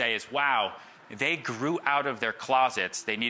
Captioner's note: none